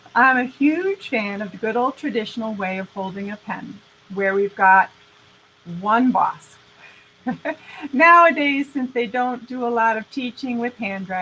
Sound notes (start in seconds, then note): 7.2 laughing